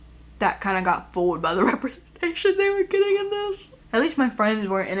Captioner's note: laughing